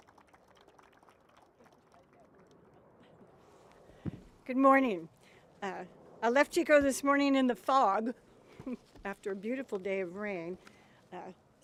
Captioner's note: applause